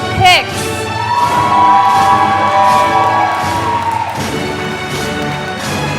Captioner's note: applause